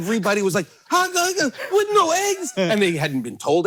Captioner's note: stammering